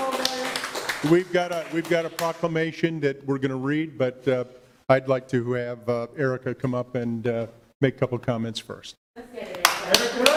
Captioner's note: cheers and applause